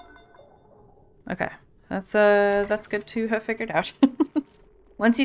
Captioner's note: laughs